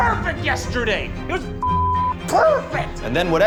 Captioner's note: beep